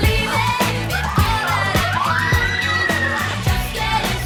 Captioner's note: upbeat music; screaming